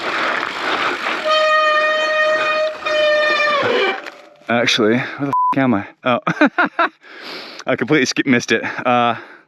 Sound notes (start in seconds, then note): 2.0 bike squeaks